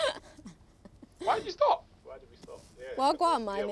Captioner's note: laughs